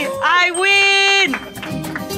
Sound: bell dings; crew applauds

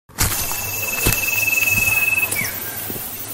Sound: footsteps

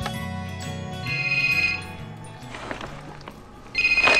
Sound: phone ringing

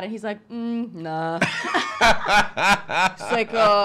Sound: laughing

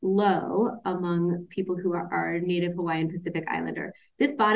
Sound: none

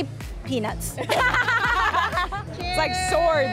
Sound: both laugh

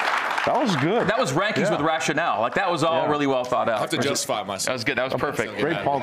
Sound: cheers and applause

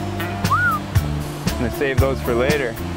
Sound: whistles

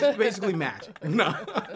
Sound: laughter

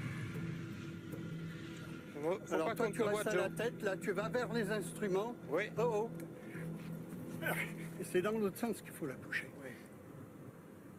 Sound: speaking in foreign language

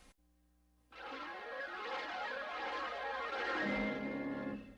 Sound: swirling sounds resuming

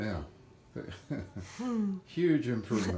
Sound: both chuckle

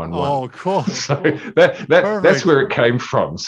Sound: laughing

